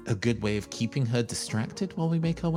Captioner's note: none